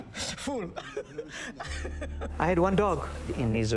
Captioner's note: laughs